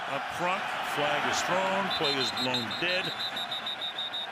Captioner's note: pa announcement